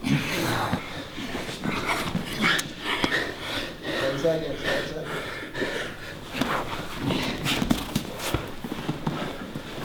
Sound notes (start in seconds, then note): 4.2 voiceover